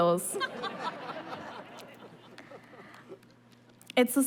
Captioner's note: laughter